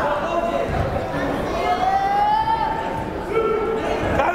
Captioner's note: yelling